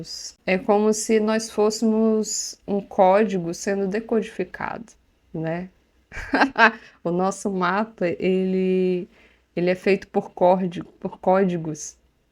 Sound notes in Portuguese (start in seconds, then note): 6.1 risos